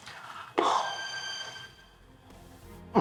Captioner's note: phone ringing